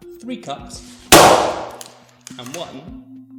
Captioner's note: smash sound